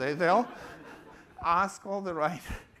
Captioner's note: laughter